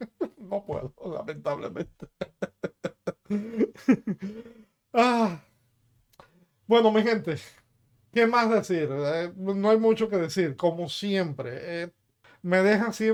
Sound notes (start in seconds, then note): 3.5 laughs